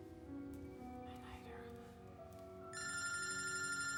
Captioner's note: whispers; phone ringing